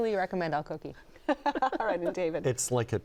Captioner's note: laughs